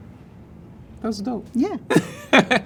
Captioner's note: laughs